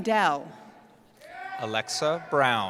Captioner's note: cheering